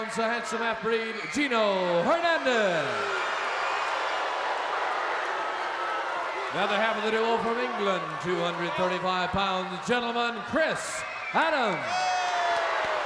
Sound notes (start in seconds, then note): 3.1 crowd boos; 12.8 crowd boos